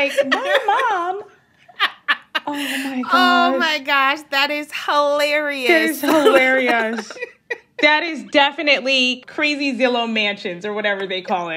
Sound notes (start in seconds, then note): 1.6 laughter; 5.2 laughter